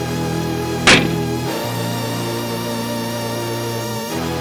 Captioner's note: door slams